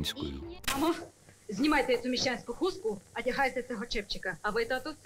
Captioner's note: speaking in Ukrainian